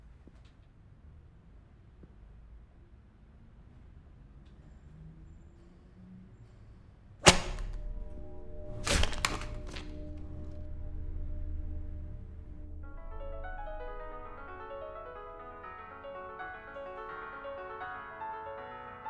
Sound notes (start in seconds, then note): 8.6 paper cracks; 12.6 lively piano music